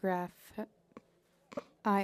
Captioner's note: speaking French